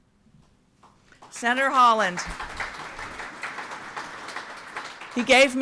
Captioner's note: audience applauds